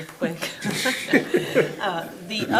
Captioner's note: laughter